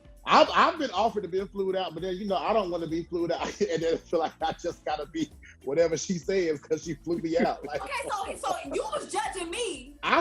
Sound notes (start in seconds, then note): 3.4 laughs